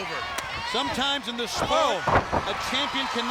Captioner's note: body thudding